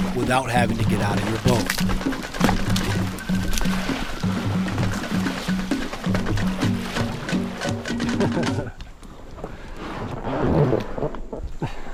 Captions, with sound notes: without having to get out of your boat (laughs)